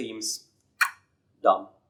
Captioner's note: clicks tongue